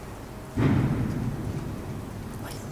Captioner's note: loud thump